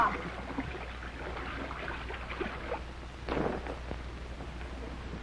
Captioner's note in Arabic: رش